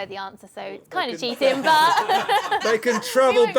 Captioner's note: laughter